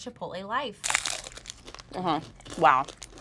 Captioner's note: crunch